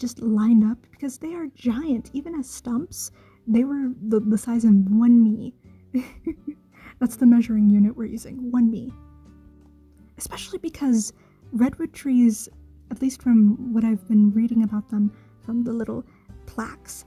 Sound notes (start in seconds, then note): 5.9 chuckle